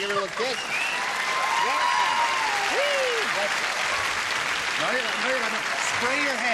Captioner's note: applause